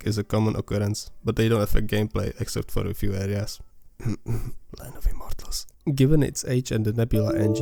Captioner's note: cough cough